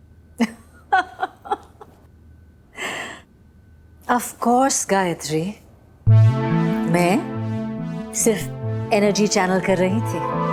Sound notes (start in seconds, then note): 0.8 laughing; 2.8 sharp inhale